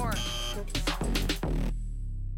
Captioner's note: buzzer